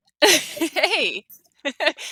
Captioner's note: laughs